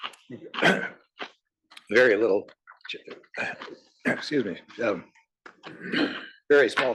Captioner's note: cough